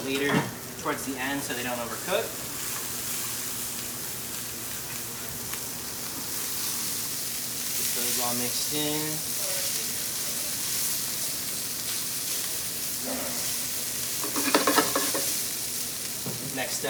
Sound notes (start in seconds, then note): 2.7 ingredients sizzle loudly in the pan; 9.7 ingredients sizzle loudly in the pan; 14.3 pan scrapes against the burner